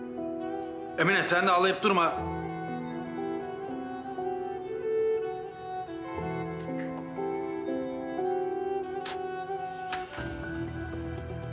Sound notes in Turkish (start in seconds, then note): 9.0 Kapı Açılıyor